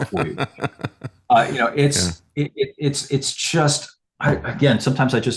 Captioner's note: laughing